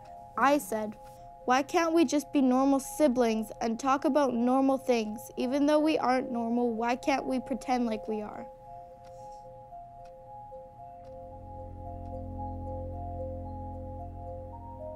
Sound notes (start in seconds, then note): 9.6 engaging dramatic music; 10.4 clock ticks